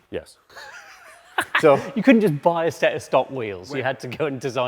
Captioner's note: laughs